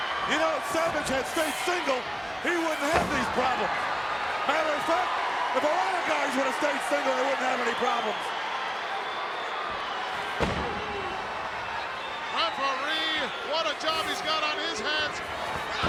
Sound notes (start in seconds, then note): 10.1 foot stomps